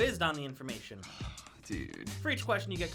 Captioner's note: sighs